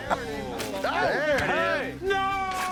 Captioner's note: all chattering